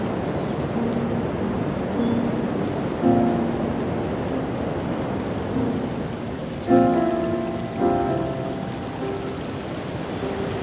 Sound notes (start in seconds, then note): 0.1 bird singing; 5.6 creek trickling